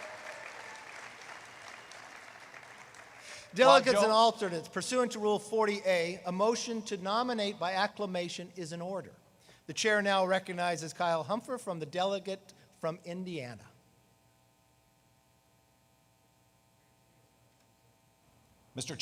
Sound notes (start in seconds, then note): 3.8 applause